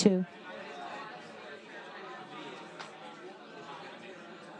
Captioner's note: audience speaking